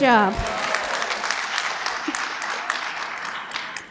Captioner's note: applause